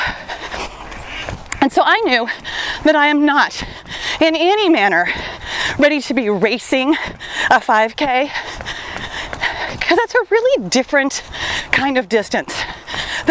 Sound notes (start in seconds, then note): none